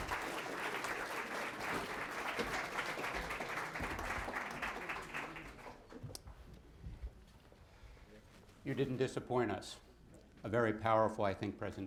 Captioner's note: applause